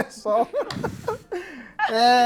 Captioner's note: laughs